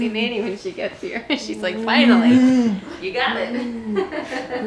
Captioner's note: laughter